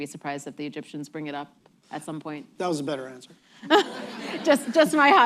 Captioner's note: laughter